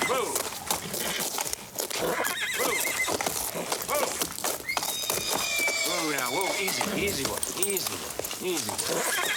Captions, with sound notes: Whoa. Whoa, whoa. (neighing and whinnying) Whoa now, whoa, easy, easy, boy, easy boy, easy boy.